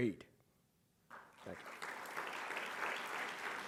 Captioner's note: audience clapping